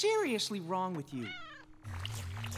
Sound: meowing

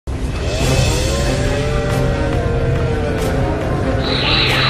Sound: Titan Kolosal is yelling out

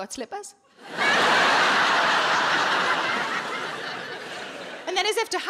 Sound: audience laughing

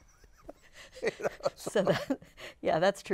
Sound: laughs

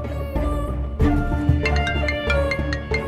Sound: cellphone rings

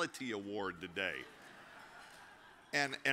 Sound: audience chuckles

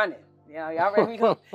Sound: laugh

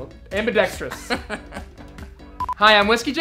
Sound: laughing

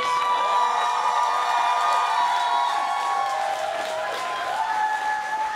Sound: cheers and applause

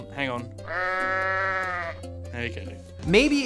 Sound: goat bleats

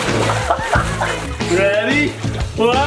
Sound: laughing

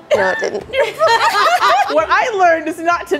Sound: all laughing

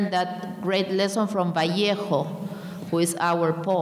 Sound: speaking in a foreign language

